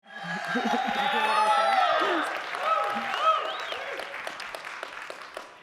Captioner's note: audience cheering; audience applauding